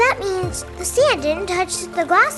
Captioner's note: Arabic